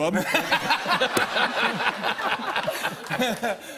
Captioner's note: laughter